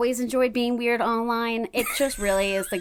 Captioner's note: laughing